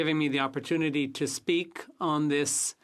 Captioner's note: speaking French